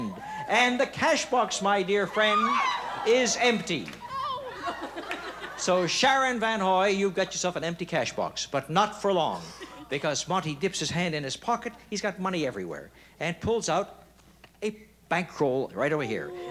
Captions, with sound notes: and the cash box, my dear friend, is empty. -Oh. (laughs) -So Sharon Vanhoy, you got yourself an empty cash box, but not for long. Because Monty dips his pocket, he's got money everywhere, and pulls out a bankroll right over here. -Oh.